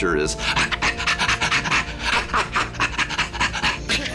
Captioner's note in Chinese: 喘氣聲